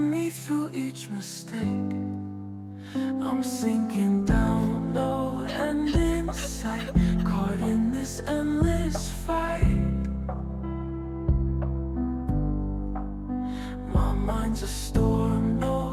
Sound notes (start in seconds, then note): 6.2 crying